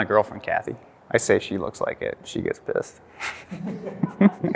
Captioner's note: chuckles